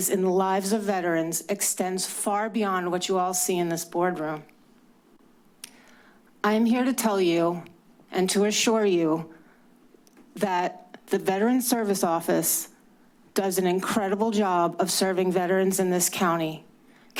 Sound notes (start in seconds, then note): 5.6 clicks tongue